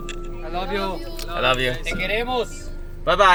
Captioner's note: Spanish